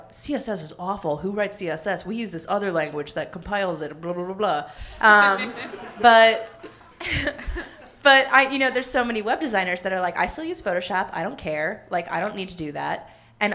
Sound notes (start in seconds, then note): 5.0 laughing; 5.1 audience laughing